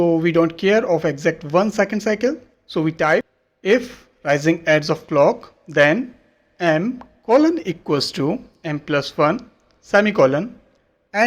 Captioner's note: clk